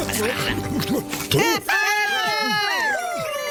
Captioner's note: they cheer